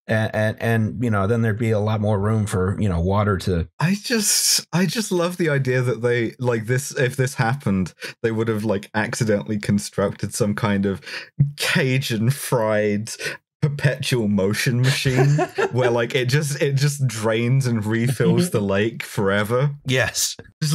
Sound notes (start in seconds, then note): 14.8 laughter